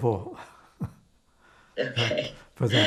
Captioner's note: laughing